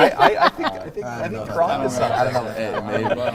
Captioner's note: laughter, talking over each other